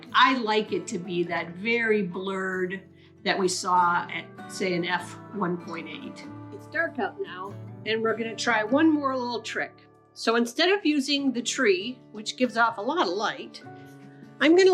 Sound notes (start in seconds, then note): none